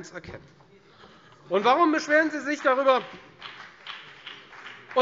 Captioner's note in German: Vereinzelter Beifall Freie Demokraten und BÜNDNIS 90/DIE GRÜNEN